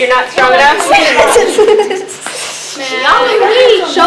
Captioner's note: laughing